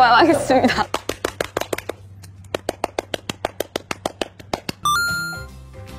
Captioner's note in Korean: 웃음; 다들 박수